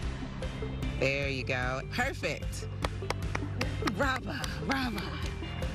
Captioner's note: clapping